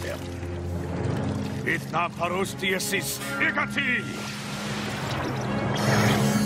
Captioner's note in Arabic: يتحدث بلغة أجنبية